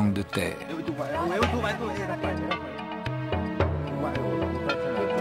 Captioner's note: foreign spoken audio